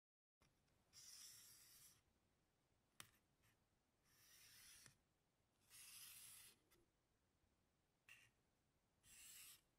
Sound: sound of charcoal on paper

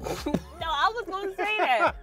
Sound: both laughing

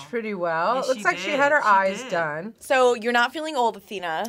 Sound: laughs

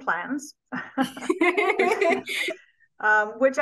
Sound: laughing

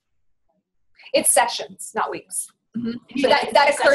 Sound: voiceover

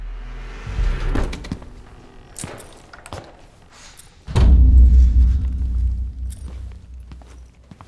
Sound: dark atmospheric music; footsteps

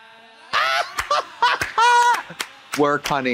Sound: Trixie squalls and applauds

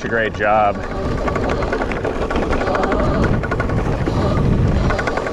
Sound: bike motor revving

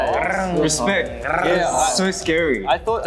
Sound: speaking Korean; imitating cars

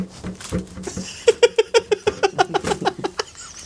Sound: banter, Beer & Lads Laughter

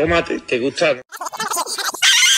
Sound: fast rewind sound effects; girl scream

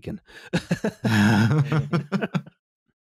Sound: laughter

